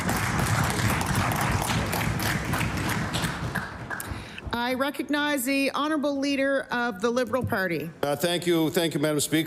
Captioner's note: applause